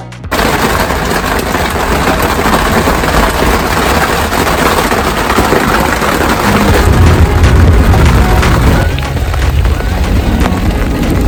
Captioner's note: thunderstorm sounds